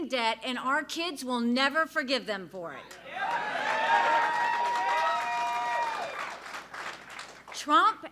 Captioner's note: applause